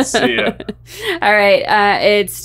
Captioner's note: laughing